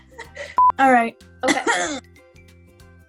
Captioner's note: clears throat weirdly